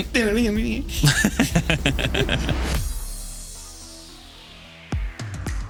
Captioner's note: upbeat Music; both Laughing